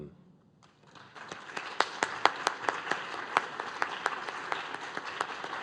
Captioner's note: applause